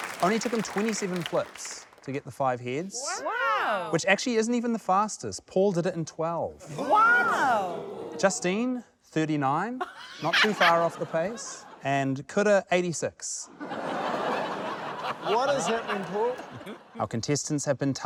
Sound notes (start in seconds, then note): 0.0 applause; 9.8 laughs; 13.5 laughter; 13.7 laughs